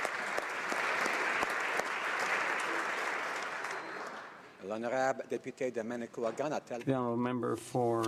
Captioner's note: applause